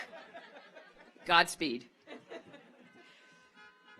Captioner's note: audience laughs; car horns honking